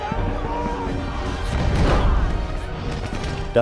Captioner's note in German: Krachen